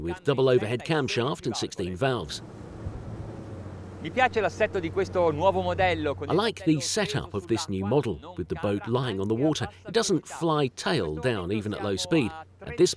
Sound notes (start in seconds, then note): 4.3 speaking foreign language